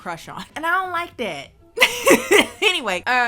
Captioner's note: laughs